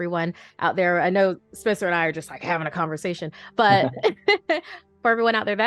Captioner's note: laughter